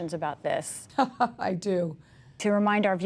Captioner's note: laughter